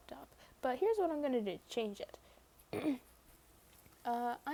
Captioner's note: ahem